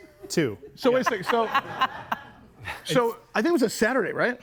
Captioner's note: group laughs